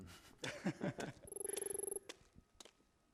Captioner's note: laughs